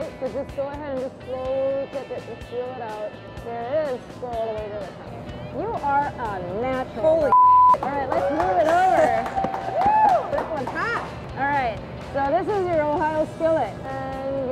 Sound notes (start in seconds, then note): 7.3 beep; 7.7 applause